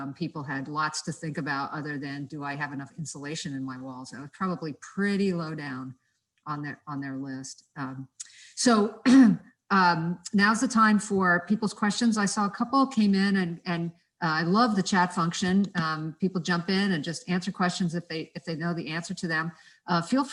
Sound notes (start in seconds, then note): 9.0 cough